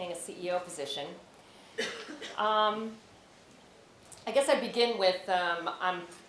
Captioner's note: cough